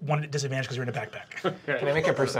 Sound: chuckling

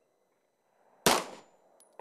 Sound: bang

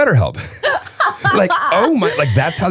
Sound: laughing

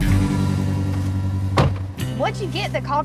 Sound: door slamming

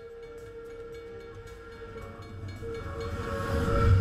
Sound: train chuffing

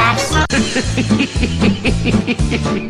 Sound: Pinky and the Brain Laugh

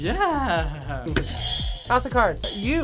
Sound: buzzer rings

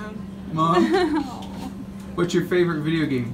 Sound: laughs

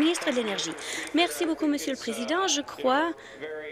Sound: applause

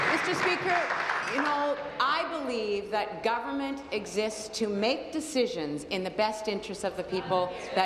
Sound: applause

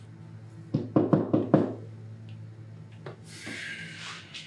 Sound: knocking at door

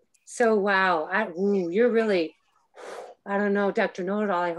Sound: exhales

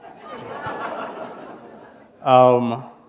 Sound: laughter

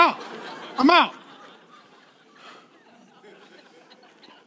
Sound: laughing

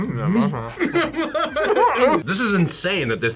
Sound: laughs

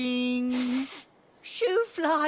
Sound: sniffs

